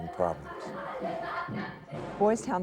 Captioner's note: children laughing